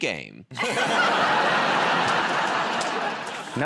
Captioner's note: laughter